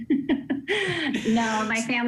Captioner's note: laughter